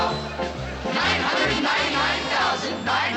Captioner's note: in normal voice